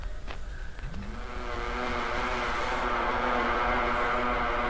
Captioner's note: buzzing